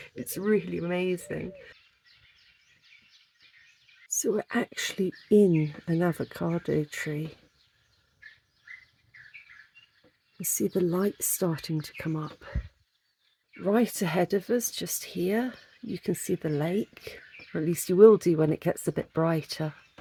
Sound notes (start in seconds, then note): 1.9 dawn chorus